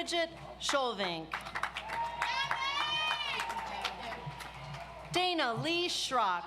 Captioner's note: audience applauds